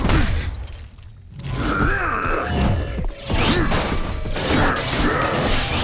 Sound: grunting

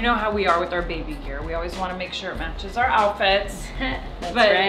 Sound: laugh

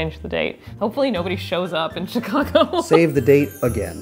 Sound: laughs

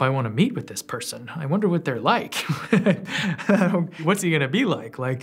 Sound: laughs

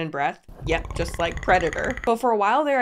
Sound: creature clicks

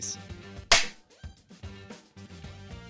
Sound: film clapper sound, upbeat music continues

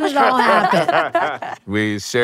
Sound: tWitch and Allison laughing

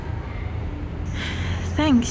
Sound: sigh

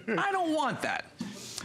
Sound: laughter

